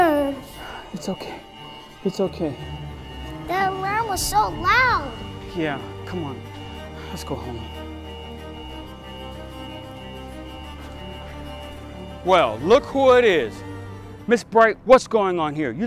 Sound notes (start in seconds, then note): 8.3 school alarm beeping